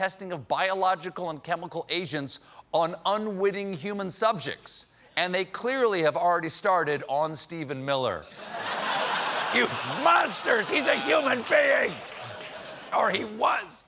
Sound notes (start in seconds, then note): 8.3 laughter